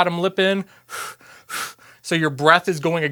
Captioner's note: blows